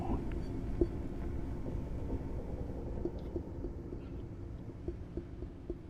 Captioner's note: faint tapping continues